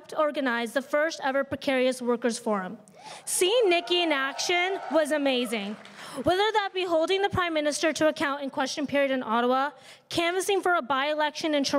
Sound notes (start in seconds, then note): 3.0 crowd cheering and applauding